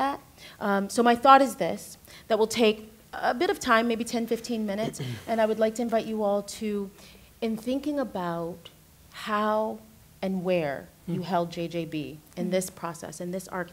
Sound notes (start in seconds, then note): 4.8 clears throat